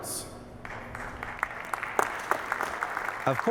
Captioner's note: audience applauding